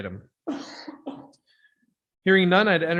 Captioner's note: person coughing